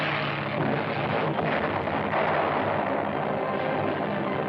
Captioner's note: explosions